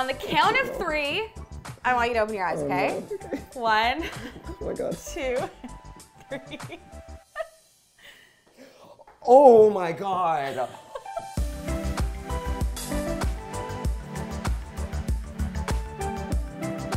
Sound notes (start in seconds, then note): 6.3 laughing; 10.4 laughing